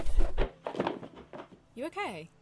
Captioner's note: books thud